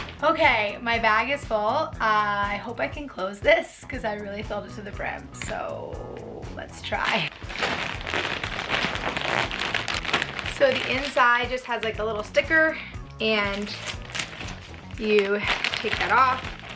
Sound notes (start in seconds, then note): 6.9 plastic crinkling